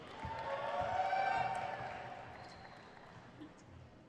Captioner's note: crowd cheers